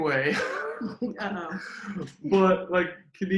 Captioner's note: laughs